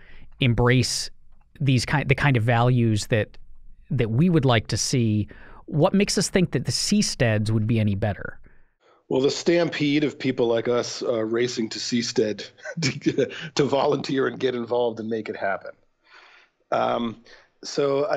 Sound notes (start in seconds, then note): 12.4 chuckle